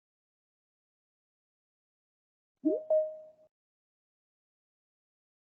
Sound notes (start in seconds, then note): 2.7 beeping